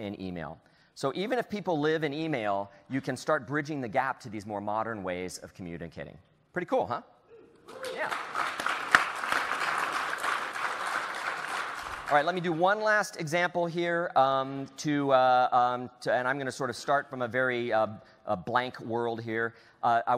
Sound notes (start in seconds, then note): 10.5 applause